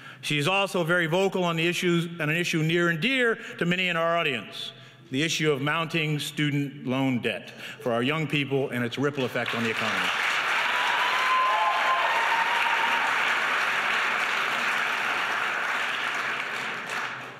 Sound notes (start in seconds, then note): 10.2 audience cheers